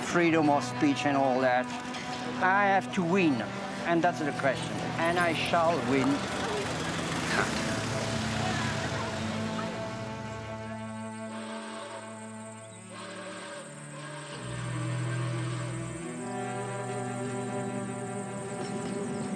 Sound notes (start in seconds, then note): 10.5 sad music; 14.9 train horn whistling; 16.4 birds twittering